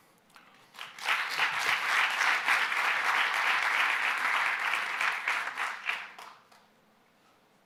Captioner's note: applause